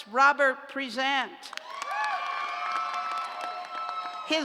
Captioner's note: cheers and applause